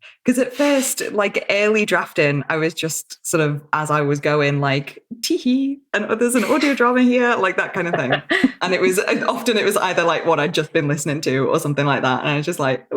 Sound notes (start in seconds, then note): 7.4 laughs